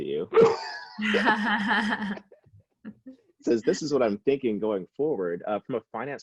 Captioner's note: laughs